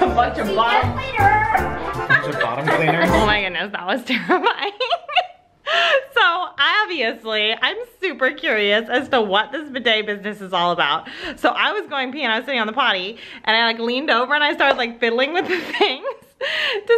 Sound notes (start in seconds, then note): 5.8 laughs